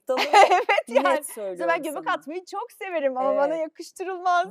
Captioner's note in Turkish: kahkaha